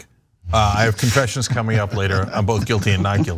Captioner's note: laugh